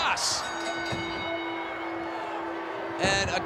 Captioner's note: bell dings